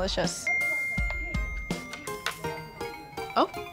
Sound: phone dings

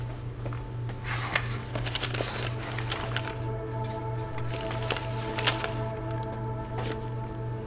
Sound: pages rustling

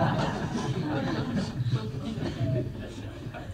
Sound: laughter

